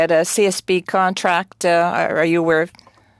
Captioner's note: speaking french